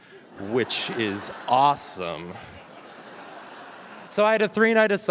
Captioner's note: audience laughing